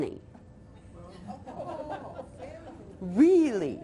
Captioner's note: audience laughs